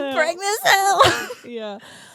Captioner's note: laughs